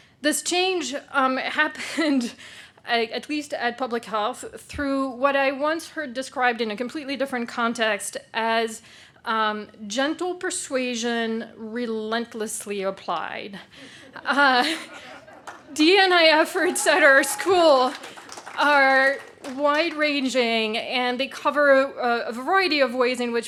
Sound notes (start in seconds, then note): 13.8 laughing; 15.1 people cheer and applaud